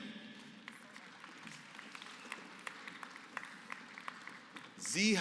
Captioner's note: applause